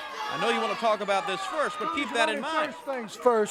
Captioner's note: crowd cheering